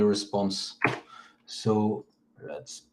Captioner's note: keyboard clicks